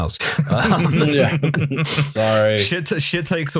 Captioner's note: laughter